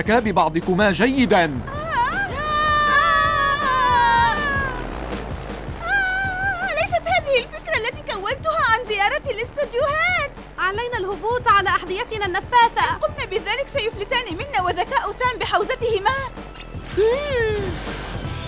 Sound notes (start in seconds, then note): 3.2 girls screaming